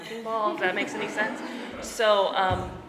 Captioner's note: laughing